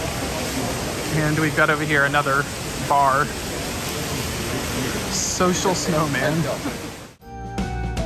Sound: laughs

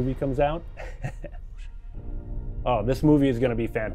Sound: chuckles; dramatic music ends

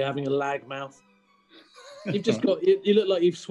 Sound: sniggering

